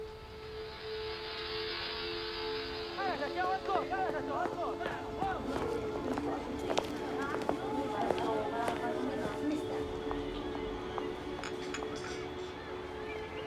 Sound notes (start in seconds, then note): 2.3 city commotion